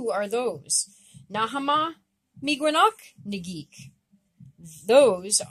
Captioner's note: speaking Abenaki